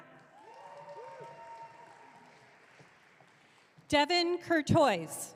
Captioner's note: audience cheering